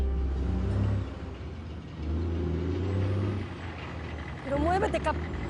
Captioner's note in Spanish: Sonido del camión